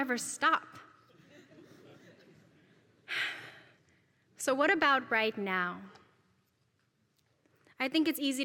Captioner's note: laugh